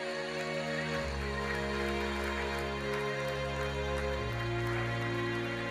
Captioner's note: audience applauding